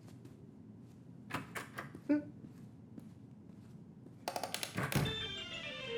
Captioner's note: footsteps tapping; door clicking; footsteps tapping